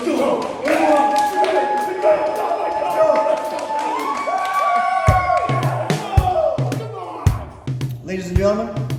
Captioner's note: cheers